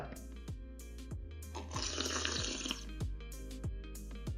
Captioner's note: slurping